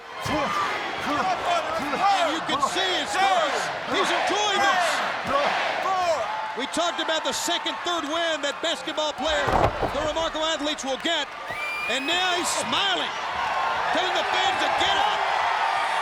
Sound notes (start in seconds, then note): 13.6 audience cheers